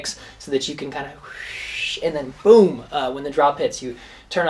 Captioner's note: whooshing